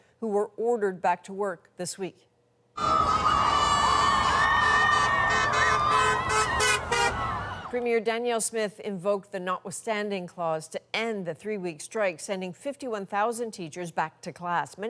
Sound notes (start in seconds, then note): 2.7 cheering; 6.5 honking